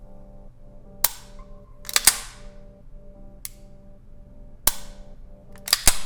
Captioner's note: gun clicking repeatedly